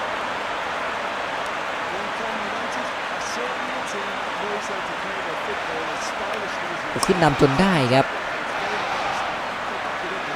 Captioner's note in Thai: ปรบมือ